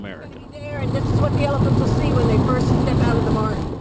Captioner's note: car sounds